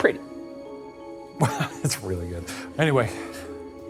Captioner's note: chuckles